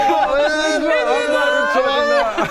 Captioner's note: incomprehensible wailing